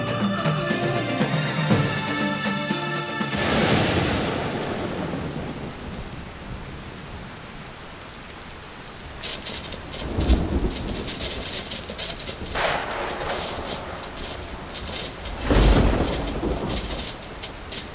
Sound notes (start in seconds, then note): 3.3 thunderclap; 5.2 rain falling; 9.2 electricity buzzing; 12.7 thunderclaps; 17.7 electricity buzzing